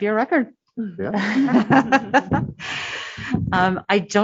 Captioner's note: laughter